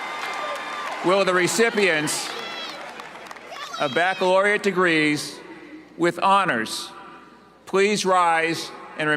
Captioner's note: cheers and applause